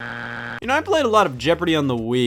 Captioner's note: buzzer beeps